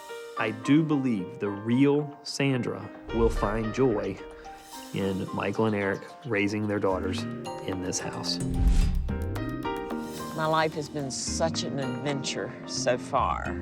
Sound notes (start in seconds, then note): none